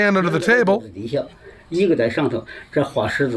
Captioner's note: non-english speech